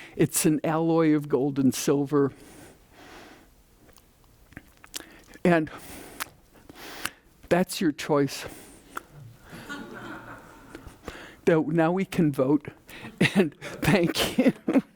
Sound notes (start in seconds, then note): 9.4 audience laughing